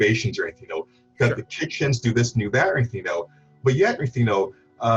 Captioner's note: he mumbles